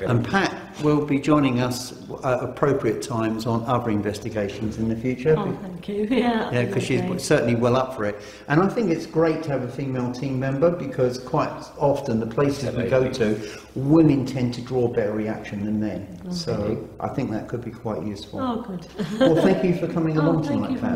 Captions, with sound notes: And Pat will be joining us at appropriate times on other investigations in the future. - Oh thank you, yeah. - Yeah, 'cause she's certainly well up for it. And I think it's great to have a female team member because, quite often, the places that we go to, women tend to draw a better reaction than men. So, I think that could be quite useful. - Oh good. (laughing) - Well, thank you for|coming along tonight, Pat.